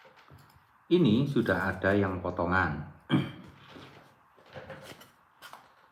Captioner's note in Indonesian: berdehem